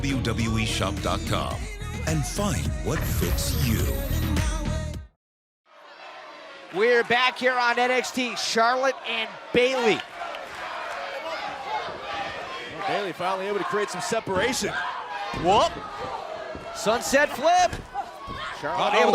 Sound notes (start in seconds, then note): 11.4 fans chanting